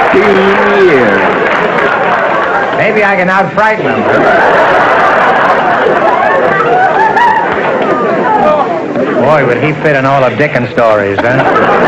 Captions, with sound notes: Sixteen years. Maybe I can out-frighten him, huh? [audience laughter] Boy, would he fit in all of Dickens' stories, eh?